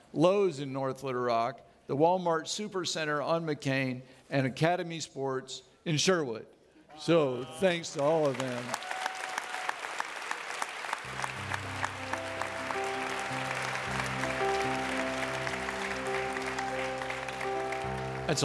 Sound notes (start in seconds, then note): 10.5 audience clapping